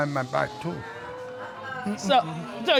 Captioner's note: audience groans